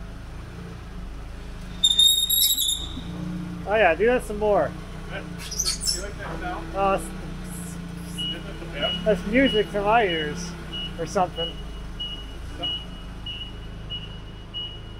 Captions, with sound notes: (scraping) Oh yeah, do that some more. - Do you like that sound? Isn't it the best? - That's music to my ears, or something. (forklift beeping)